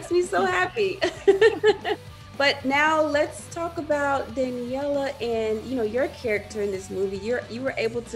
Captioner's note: laugh